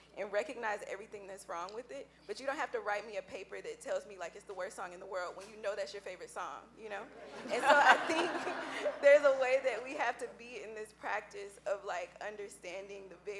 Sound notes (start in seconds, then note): 7.1 laughing